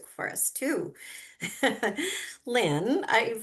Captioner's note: chuckles